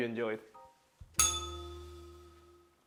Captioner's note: bell rings